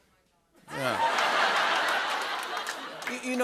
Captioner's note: laughter